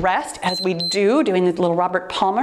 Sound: timer beeps

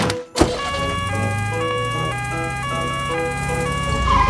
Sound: siren sounding

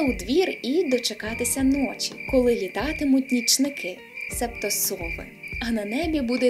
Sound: owls

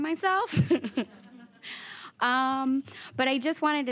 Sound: nervous laughing

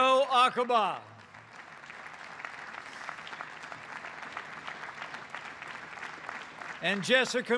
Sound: applause

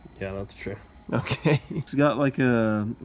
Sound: laughs

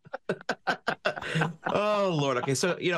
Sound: chuckle

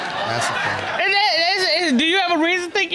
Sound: audience laughs; stutters

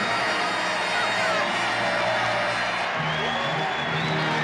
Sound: cheering

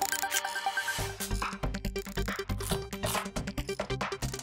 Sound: shutter sound

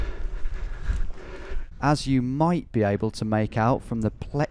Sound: voiceover

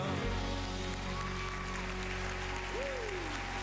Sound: applause & cheers

